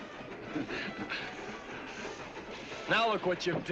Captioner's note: chuckling